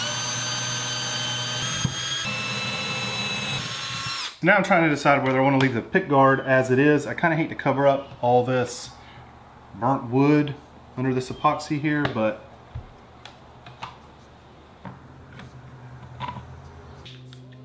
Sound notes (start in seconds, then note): 4.0 drill whining